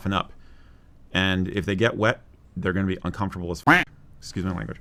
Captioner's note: quack